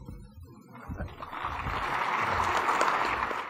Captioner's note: applause